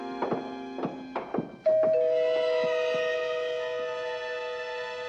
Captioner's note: doorbell continues ringing